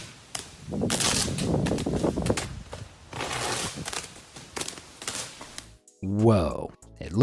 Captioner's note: electricity crackles; wind roaring